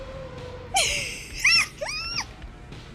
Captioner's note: high pitched giggle